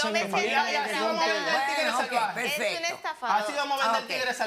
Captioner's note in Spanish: Hablan al unísono